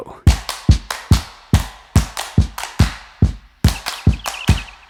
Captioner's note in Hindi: तालियां